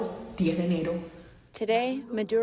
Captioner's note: through translator